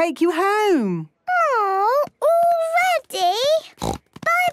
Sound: snort

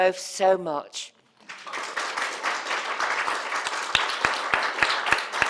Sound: audience applauding

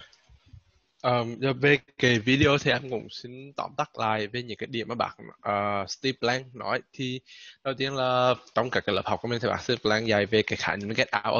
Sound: speaking Vietnamese

